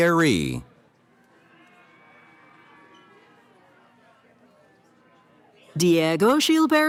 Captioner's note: cheering